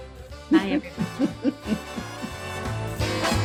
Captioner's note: woman laughs; upbeat music